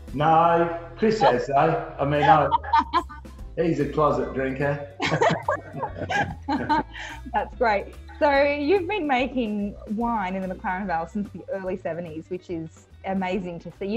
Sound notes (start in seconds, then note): 2.2 laughs; 5.0 both laugh